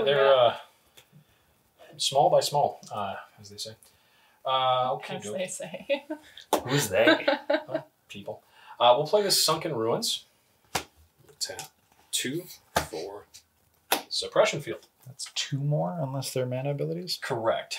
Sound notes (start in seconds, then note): 6.6 laughs